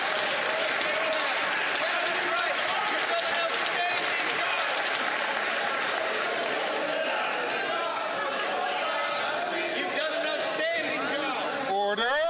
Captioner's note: some Applause